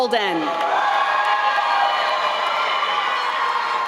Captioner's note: applause